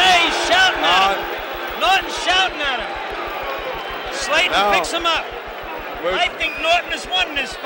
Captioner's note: bell sounds